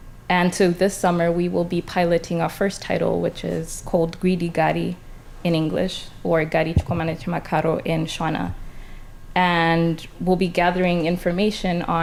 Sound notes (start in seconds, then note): 6.5 speaking foreign language